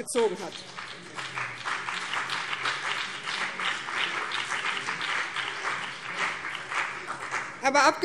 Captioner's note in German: Beifall BÜNDNIS 90/DIE GRÜNEN und vereinzelt CDU